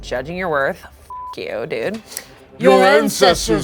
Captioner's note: beep